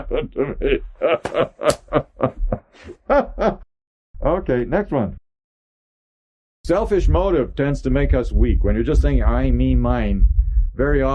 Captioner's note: laughs